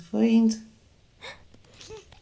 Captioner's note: sigh; laughter